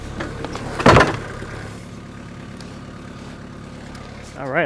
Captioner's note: wood clatters